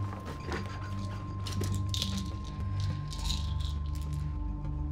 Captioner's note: pills rattling